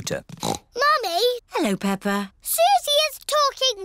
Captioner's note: snorts